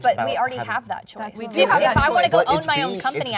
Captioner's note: overlapping chatter